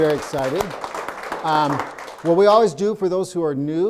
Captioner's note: audience applauding